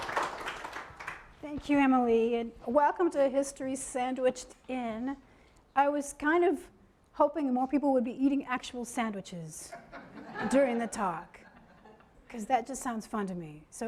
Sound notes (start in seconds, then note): 0.0 audience applause; 9.8 audience laughing